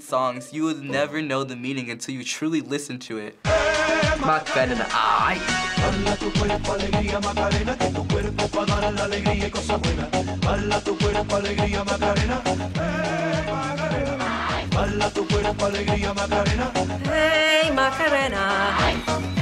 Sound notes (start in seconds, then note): 12.3 humming along; 17.1 singing along